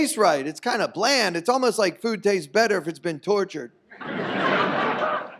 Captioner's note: audience laughs